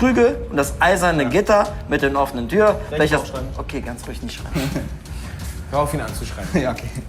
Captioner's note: laughs